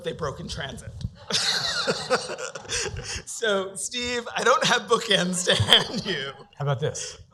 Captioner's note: laughter